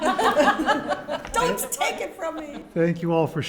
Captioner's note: panel laugh